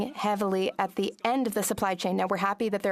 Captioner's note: speaking French